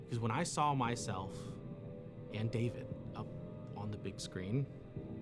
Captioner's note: none